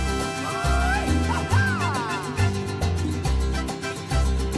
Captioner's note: Mariachi band member yipping